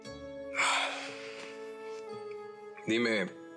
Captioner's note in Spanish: exhala